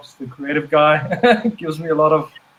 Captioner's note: giggles